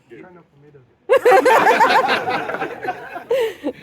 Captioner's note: laughter